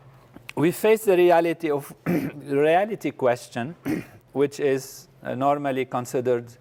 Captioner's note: cough